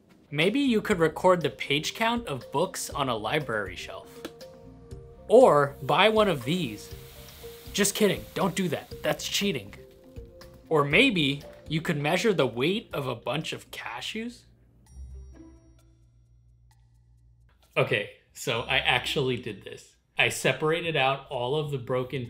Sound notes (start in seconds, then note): 5.7 sand falling; 14.3 playful music